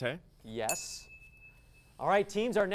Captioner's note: ding